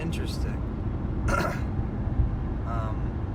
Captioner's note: clears his throat